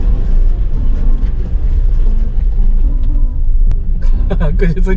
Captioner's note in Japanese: 車の下を擦る音